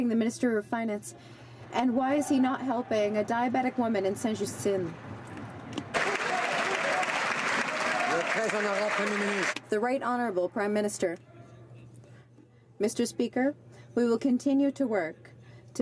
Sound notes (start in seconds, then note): 9.0 some Applause